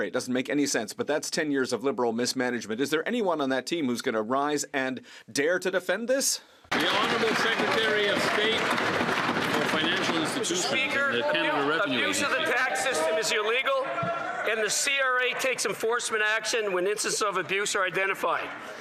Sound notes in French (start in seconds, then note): 10.9 voix de l'interprète; 17.0 voix de l'interprète